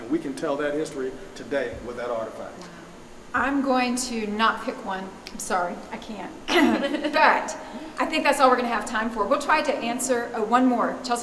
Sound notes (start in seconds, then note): 6.5 laughing